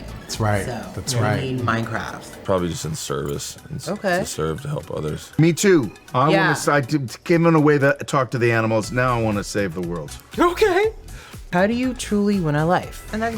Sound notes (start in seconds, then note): 11.1 laughs